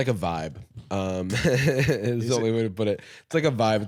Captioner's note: laughs